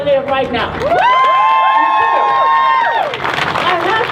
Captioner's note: crowd cheers